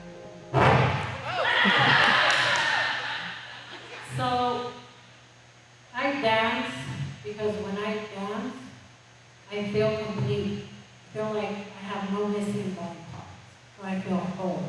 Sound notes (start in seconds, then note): 0.7 distorted microphone noise; 1.3 laughter